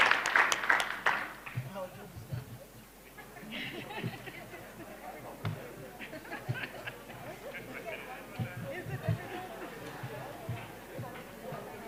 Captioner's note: applause; background chatter